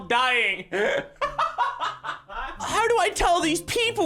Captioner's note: laughs